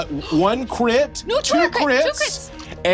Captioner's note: gasps